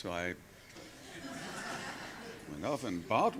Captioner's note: laughs